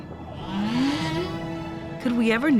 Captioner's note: whale trumpets